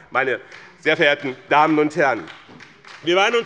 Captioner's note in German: Beifall bei dem BÜNDNIS 90/DIE GRÜNEN und der SPD